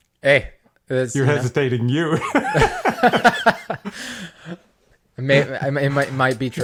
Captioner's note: laugh